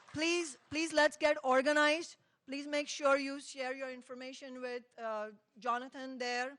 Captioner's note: applause